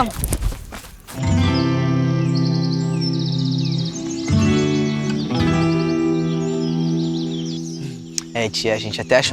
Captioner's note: birds